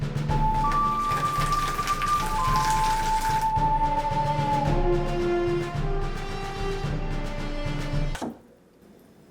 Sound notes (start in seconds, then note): 0.3 water pouring